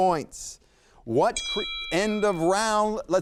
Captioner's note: bell rings